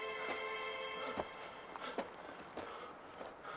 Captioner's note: panting